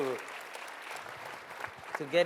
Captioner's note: applause